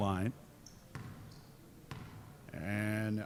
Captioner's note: dribbling